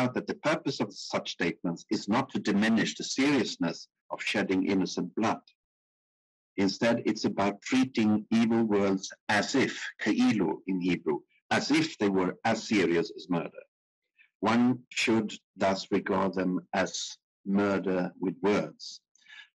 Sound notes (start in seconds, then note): 9.6 speaking in foreign language